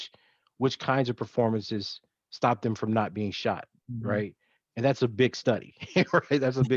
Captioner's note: laughs